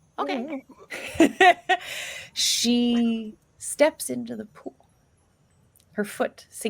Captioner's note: laughs